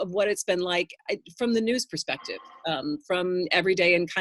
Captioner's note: phone rings